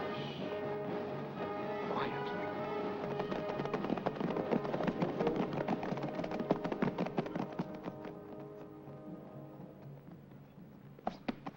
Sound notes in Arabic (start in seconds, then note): 2.3 ضربات حوافر; 2.6 موسيقى درامية